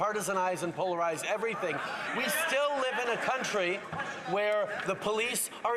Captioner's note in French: voix de l'interprète